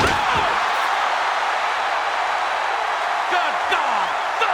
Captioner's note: crowd cheers